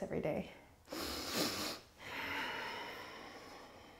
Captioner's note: deep breathing